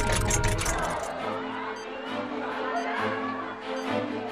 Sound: clamoring

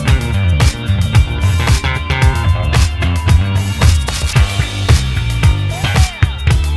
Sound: audience cheers

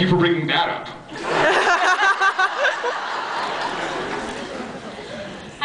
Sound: laughs

